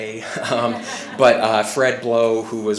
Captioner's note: laughing